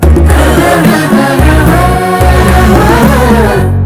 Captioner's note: moaning